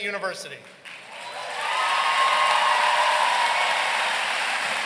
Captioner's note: audience cheering